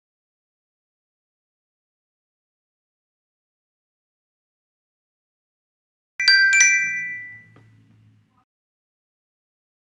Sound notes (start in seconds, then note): 6.2 bells chiming